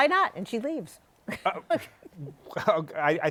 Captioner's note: laughs